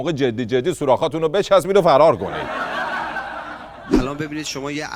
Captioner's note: laughter